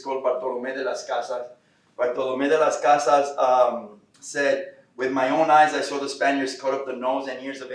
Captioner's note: Spanish